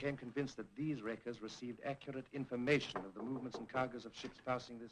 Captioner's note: knock at door